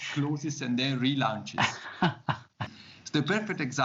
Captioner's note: laughs